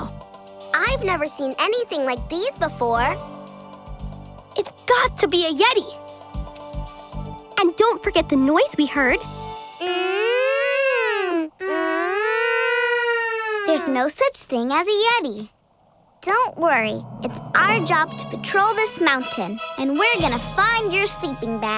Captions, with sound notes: I have never seen anything like these before. It's got to be a yeti! And don't forget the noise we heard... [groaning] There's no such thing as a yeti. Don't worry, it's our job to patrol this mountain, and we're going to find your sleeping bag.